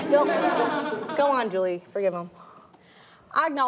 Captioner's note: laughing